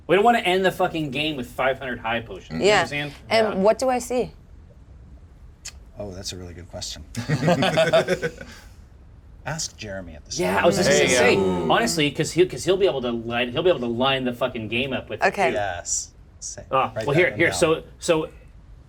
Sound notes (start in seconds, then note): 7.1 laugh